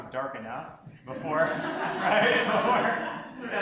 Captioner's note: audience laughs